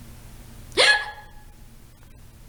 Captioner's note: hiccup